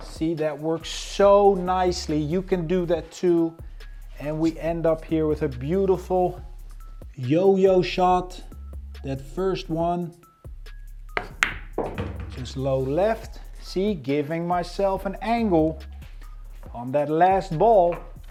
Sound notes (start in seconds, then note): 11.1 ball bangs; 18.0 upbeat music continues